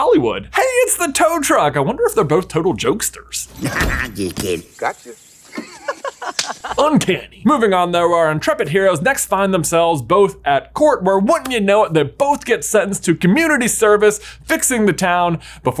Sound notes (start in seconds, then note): 5.4 laughs; 6.1 men high fiving